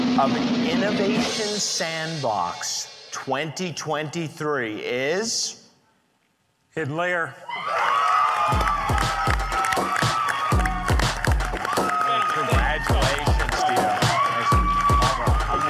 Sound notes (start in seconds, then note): 7.6 audience cheering; 8.4 upbeat music